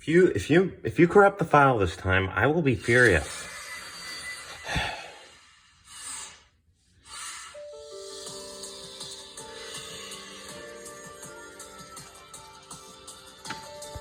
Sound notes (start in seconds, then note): 4.7 exhale